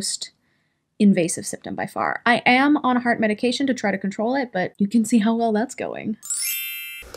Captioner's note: bring sound effect